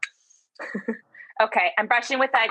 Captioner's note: chuckles